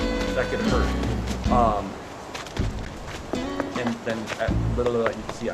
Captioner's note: vocalizations